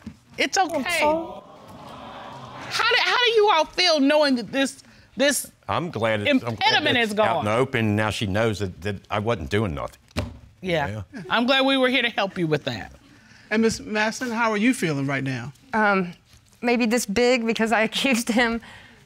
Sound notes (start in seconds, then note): 0.6 voice breaks; 1.0 audience awes